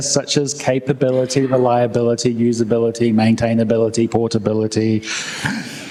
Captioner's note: inhales deeply; laughter